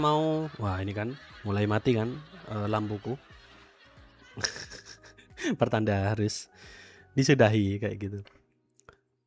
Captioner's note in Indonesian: tertawa